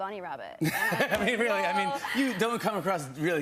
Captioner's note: laughs